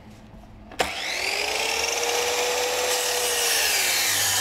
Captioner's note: the sawing noises start to get louder again